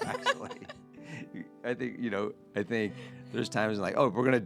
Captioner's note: laughing